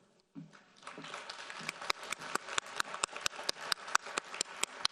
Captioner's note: audience applauding